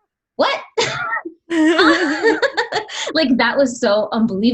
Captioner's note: laughs